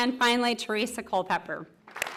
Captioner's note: applause; applause and cheering